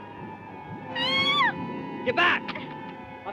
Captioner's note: squealing